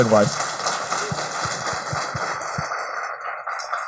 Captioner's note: applause